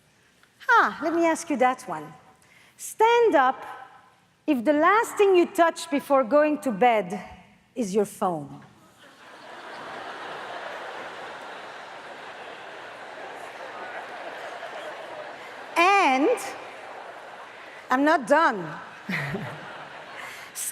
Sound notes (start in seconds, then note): 9.5 audience laughs; 18.5 laughs